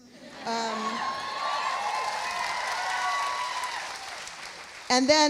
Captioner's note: audience cheering; audience applauding